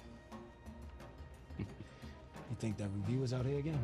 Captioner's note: chuckles